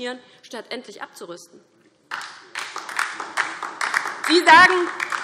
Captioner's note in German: Beifall DIE LINKE und vereinzelt SPD